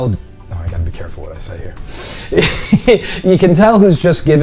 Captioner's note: laughing